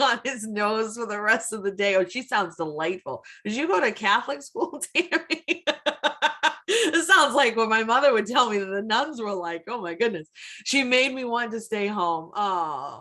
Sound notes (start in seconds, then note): 5.0 laughs